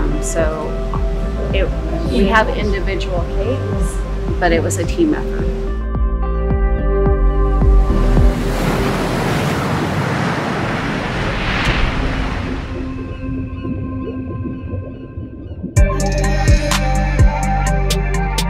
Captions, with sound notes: So, we have individual cakes, but it was a team effort. (water splashing) (soft music)